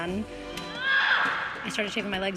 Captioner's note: screams